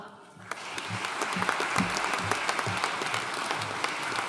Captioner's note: audience applauding